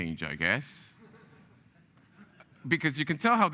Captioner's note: audience laughing